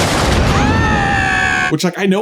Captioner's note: screams